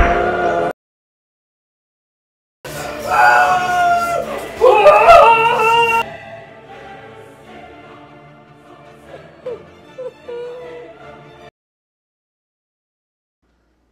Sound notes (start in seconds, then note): 3.0 screaming; 6.6 cries softly